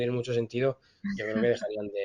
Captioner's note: laughs